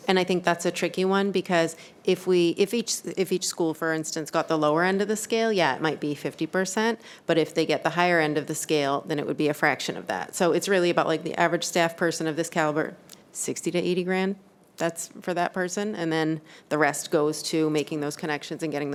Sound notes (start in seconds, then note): none